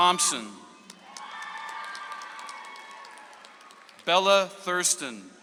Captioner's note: audience applauds